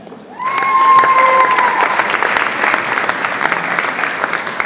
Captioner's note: audience applauds